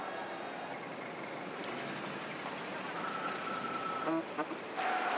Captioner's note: crowds chattering; car engines puttering